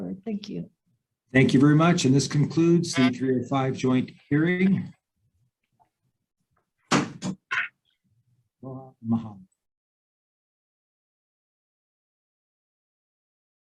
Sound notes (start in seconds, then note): 6.9 gavel thuds; 9.5 speaking in foreign language